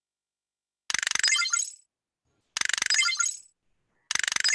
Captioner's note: robot clicks